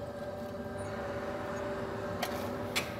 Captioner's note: machine noise